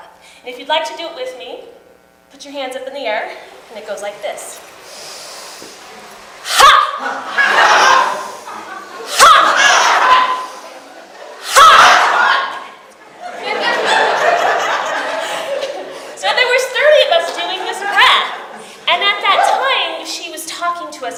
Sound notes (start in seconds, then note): 4.8 speaker inhales; 6.9 audience laughs; 10.0 speaker and audience together: inhaling; 11.7 speaker and audience laugh together